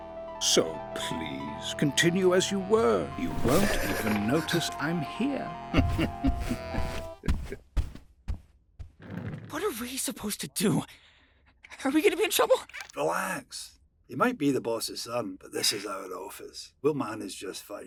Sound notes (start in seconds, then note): 5.7 Nedward chuckles deviously; 9.1 whispering